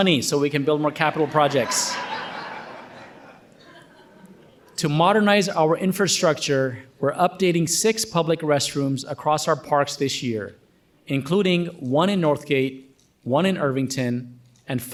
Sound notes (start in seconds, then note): 2.4 audience laughing